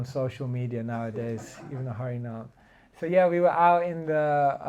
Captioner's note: laughter